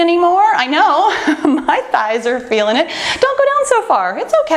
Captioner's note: laughs